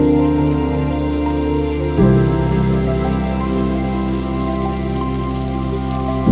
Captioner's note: fry pan sizzle continues